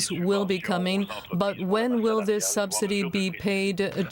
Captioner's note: speaking French